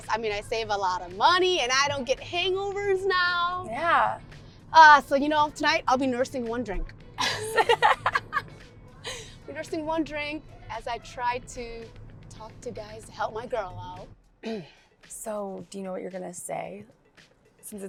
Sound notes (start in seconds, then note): 7.2 Gigi and Georgia laugh